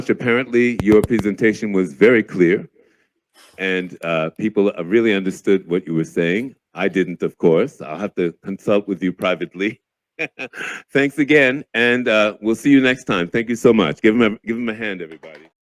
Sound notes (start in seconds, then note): 10.2 laughs